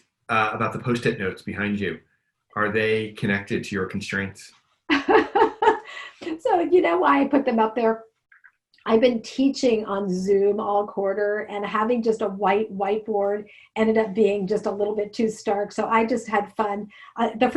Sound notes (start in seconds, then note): 4.9 laughing